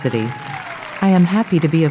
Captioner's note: applause & cheers